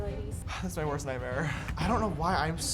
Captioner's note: sighs